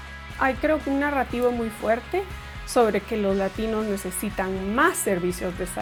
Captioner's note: upbeat music; speaks in foreign language